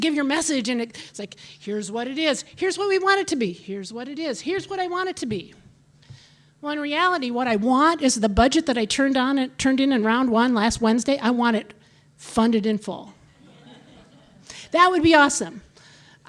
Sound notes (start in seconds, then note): 13.4 audience laughing